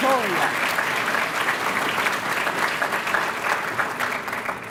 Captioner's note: applause